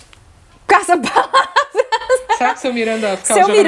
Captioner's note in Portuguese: risos